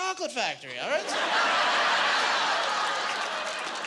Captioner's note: laughing